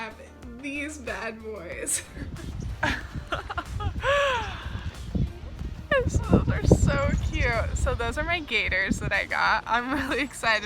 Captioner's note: laughs